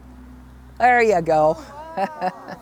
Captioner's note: laughs